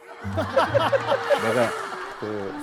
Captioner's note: gulping